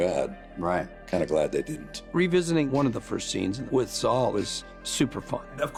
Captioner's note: none